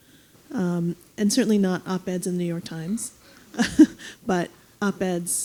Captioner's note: laughing